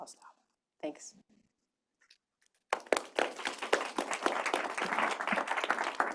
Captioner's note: applause